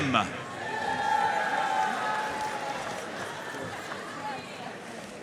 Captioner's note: audience cheering and applauding